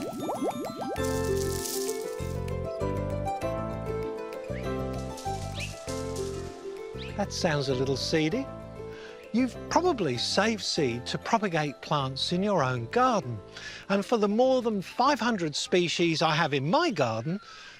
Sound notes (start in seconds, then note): 5.0 soft rattling